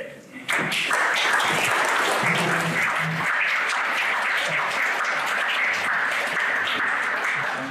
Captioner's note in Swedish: Applåder